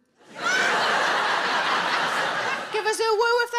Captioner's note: audience laughing